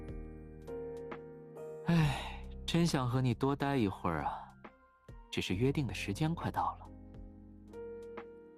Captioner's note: sigh